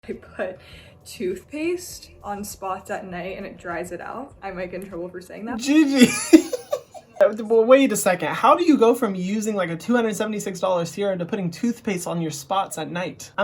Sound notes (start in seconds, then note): 5.9 laughs heartily